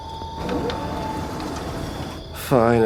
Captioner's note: door opens